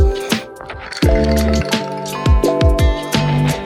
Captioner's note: rattlecan rattling